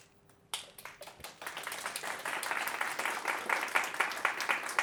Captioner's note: audience applauding